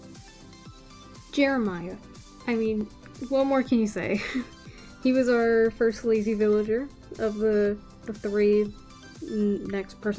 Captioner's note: chuckle